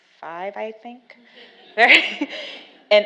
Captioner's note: laughs